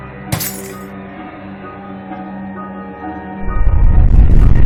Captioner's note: glass shattering